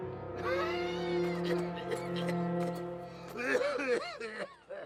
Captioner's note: dramatic music continues; Pappy coughing